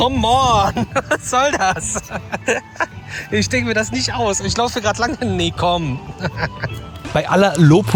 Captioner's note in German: gelächter